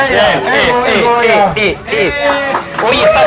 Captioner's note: cheers and applause